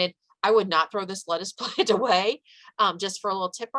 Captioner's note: chuckles